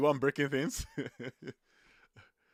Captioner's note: laughs